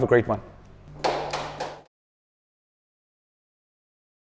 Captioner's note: applause